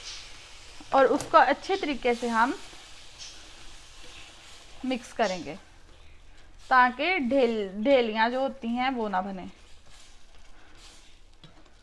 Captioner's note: whisking it